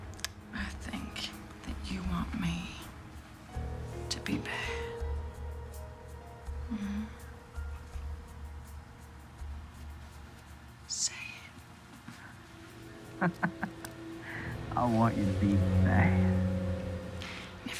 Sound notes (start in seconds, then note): 6.9 moans; 13.0 chuckles